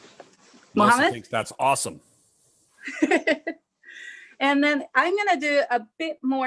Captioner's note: laughs